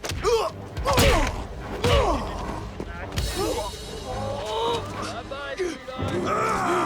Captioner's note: Knox and Dalton grunting; tense music continues; blows thudding